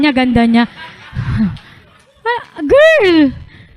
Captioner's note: laughter